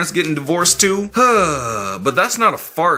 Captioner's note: sighs